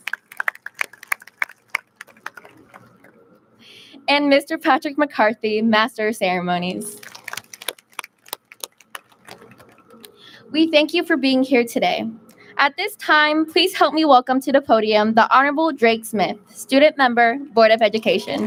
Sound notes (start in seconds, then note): 0.0 audience claps; 6.9 audience claps